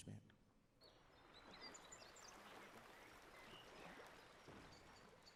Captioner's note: birds chirping